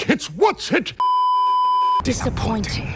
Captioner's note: beeeeeeeeeeeep